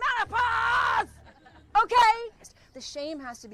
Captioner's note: audience chuckling